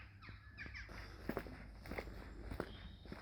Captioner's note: footsteps